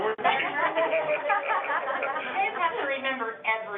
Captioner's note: all laughing